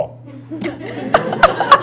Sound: laughter

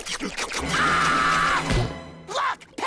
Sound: screaming

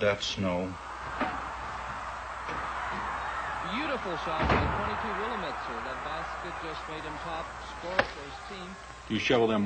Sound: television Sounds

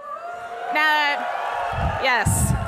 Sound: audience cheering

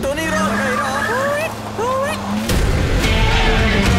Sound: hooting; crowd Cheering

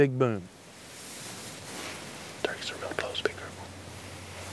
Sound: whispering

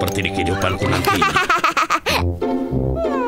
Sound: laughing; playful music

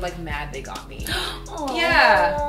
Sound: gasps

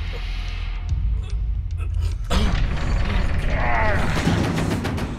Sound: grunting; intense music

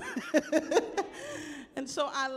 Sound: chuckles

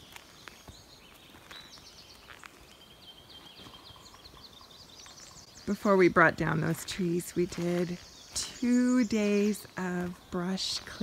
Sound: birds singing

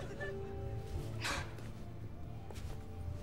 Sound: sighing

